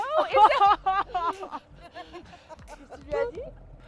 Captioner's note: laughs